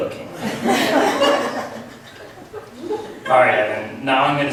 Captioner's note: laughs